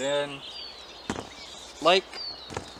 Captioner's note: slap